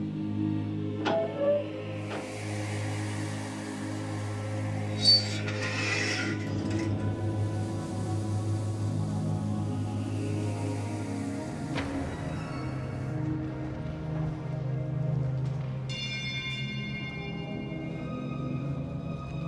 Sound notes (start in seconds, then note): 1.0 door hinges creak; 2.4 air hissing